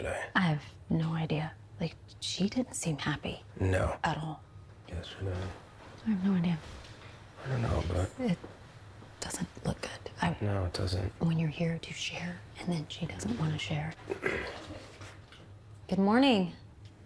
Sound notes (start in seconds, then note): 14.0 throat clears